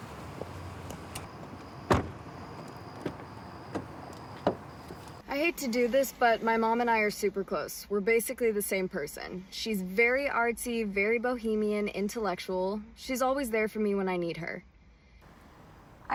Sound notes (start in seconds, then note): 1.8 door clicks